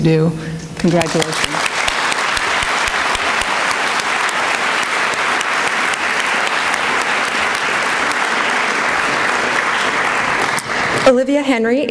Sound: applause

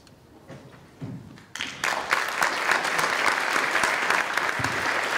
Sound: applause

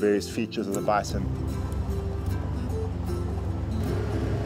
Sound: motor rumbles

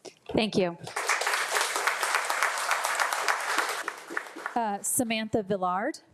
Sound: audience applauding

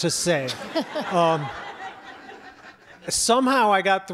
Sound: audience laughs

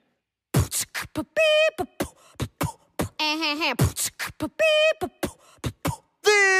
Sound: aggressive beatboxing

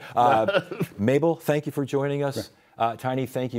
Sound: laughs

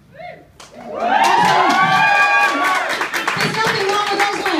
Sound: cheering

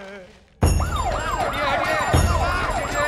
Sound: announcement on PA

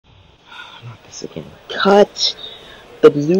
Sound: sigh

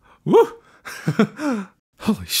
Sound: exasperated laugh

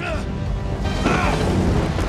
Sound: armando grunts

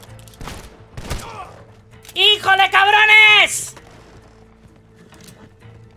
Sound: yells in Spanish

